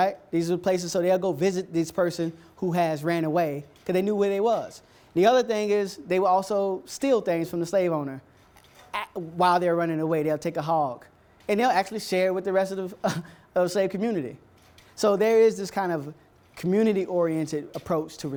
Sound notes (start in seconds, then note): 13.1 laughs